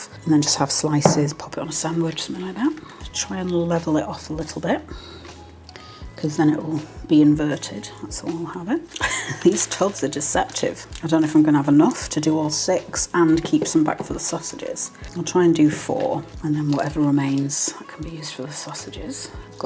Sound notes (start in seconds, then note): 8.9 laugh